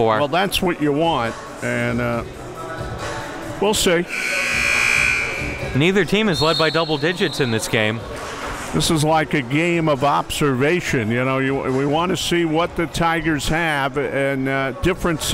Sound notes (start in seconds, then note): 4.0 klaxon sounds